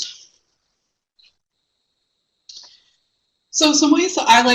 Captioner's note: no sound